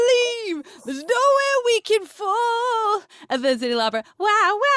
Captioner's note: wailing